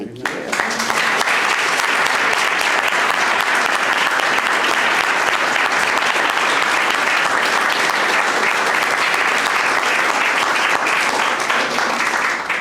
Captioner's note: applause